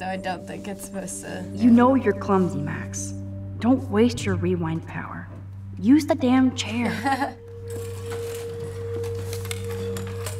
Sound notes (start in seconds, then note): 6.8 chuckles